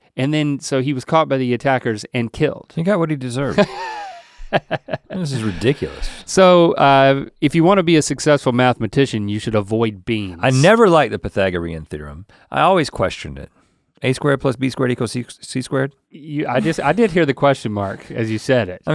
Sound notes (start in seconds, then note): 3.4 Link laughs